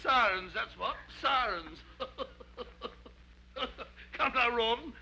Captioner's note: laughs